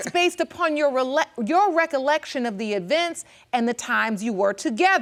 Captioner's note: chuckles